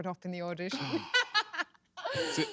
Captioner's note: laughs